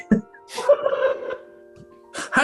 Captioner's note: giggling